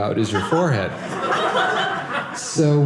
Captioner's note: audience laughing